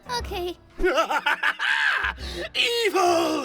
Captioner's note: sinister laugh